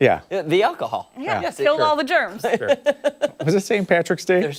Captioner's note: laughter